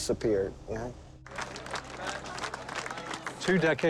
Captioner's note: crowd clapping